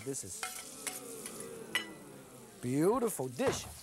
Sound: crowd

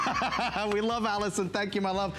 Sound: laughter

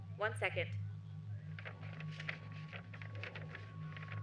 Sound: papers Rustling

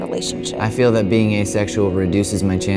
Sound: voiceover

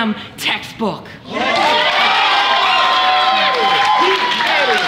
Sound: audience cheers and applauds

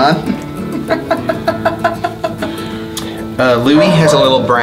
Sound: laughs

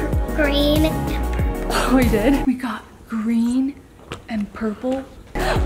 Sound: none

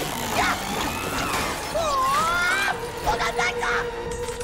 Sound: yelling

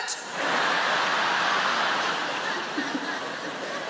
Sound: audience laughs

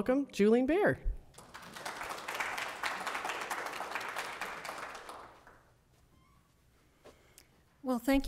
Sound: applause

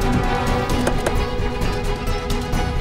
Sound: door opens

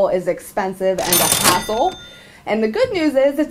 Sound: cash register sound

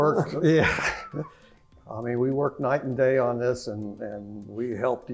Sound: laugh

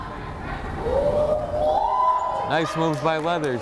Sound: crowd howling

